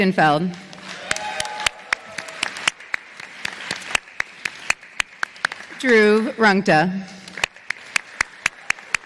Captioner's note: applause